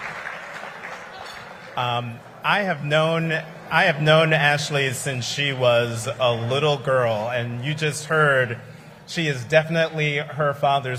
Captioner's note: applause